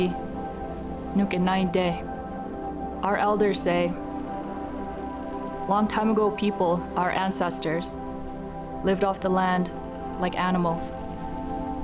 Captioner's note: speaking Indigenous language